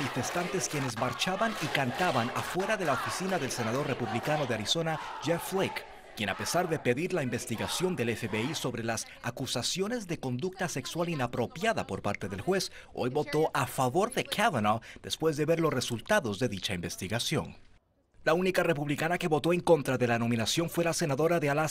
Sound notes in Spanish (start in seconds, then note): 7.2 gritos